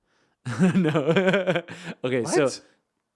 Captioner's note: laughing